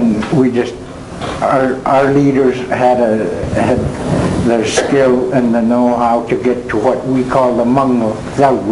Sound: speaking Native tongue

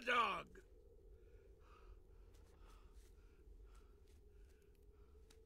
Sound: breathing heavily

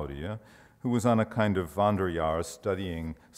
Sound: speaks foreign language

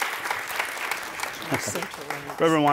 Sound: laughs

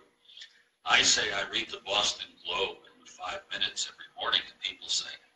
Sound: murmurs

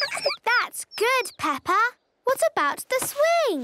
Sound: tweets

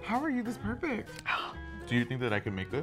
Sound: gasping

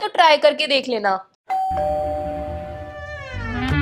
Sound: door bell rings

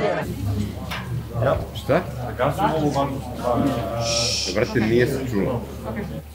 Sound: hushes

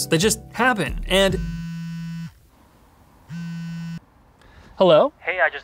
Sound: phone buzzing

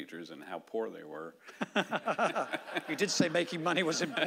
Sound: laughing

